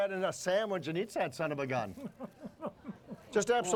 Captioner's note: chuckling